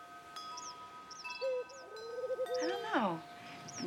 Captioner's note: wind chimes